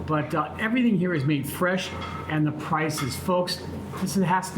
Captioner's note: none